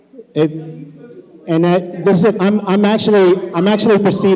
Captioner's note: shouting